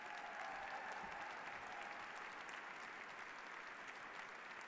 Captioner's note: applause